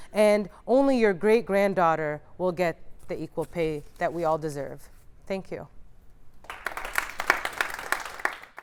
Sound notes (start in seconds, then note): 6.4 applause